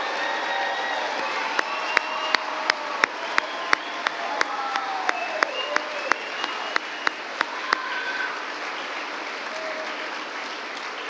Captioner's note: applause